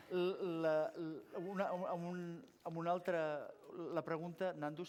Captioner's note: non-english speech